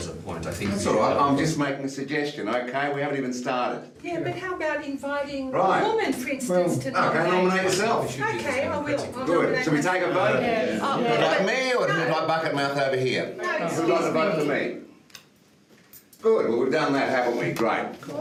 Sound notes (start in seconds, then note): 10.2 other jurors mumble agreement